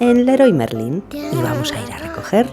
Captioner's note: laughs